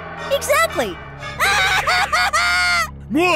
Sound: evil laughter; wailing

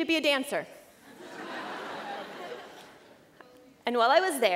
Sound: laughter

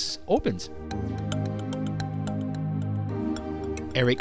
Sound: voiceover

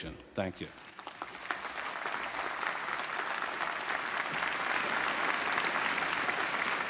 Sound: applause

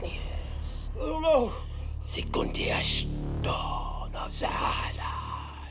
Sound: speaking foreign language

